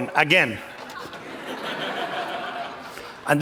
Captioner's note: laughter